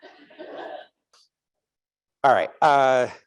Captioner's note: audience laughing